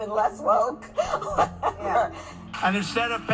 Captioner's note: laughing